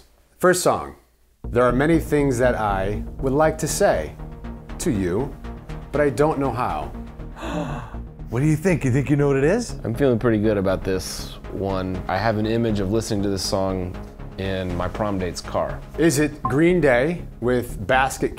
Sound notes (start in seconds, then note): 7.3 gasp